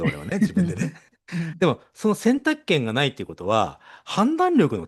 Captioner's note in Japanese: 笑い